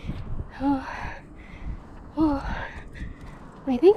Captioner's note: panting